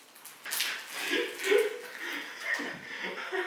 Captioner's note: laughs